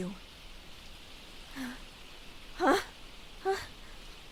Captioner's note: confused exclamation